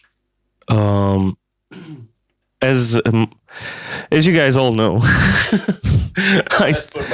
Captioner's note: laughs